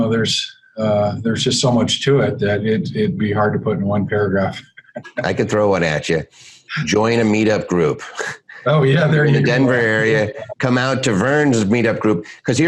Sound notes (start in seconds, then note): 4.8 laughs